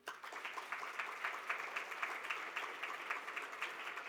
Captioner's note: audience applauding